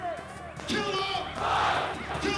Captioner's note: crowd